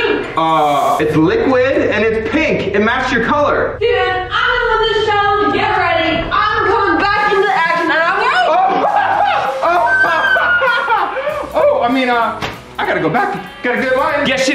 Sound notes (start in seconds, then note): 9.6 laughs